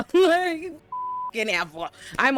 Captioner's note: beep